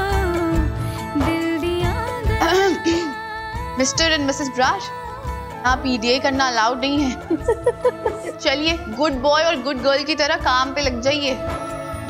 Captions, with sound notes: [clears throat] Mr. and Mrs. Brar! No PDA allowed here. Like a good boy and girl, get to work.